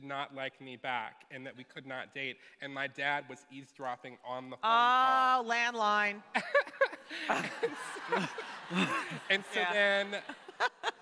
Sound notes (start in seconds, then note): 6.3 laughter